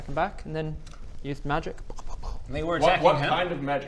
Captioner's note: pow pow pow